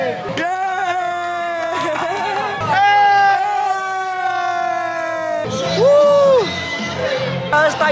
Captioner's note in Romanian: Aplauze